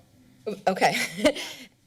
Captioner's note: chuckles